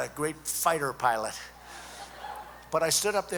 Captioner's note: laughter